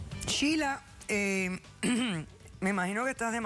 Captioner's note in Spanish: carraspea